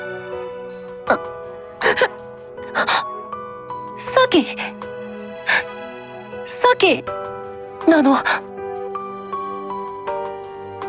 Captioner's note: sniff